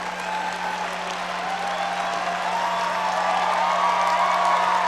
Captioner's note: audience cheering and applauding